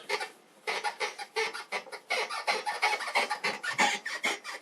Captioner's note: whiteboard squeaking